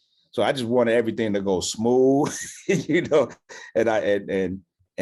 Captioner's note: laughs